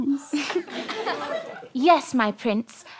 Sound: giggles

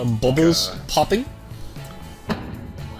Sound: loud Pop

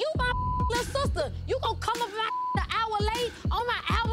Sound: beep

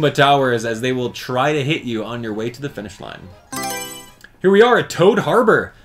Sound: Mario Selection Sound

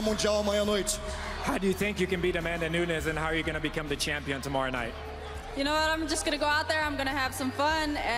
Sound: speaking foreign language

